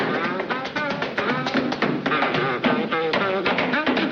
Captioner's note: lively tap dancing